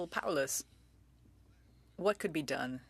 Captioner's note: speaking french